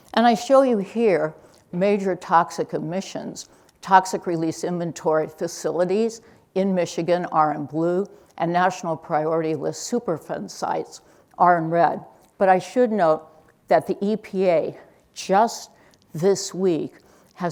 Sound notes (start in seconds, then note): none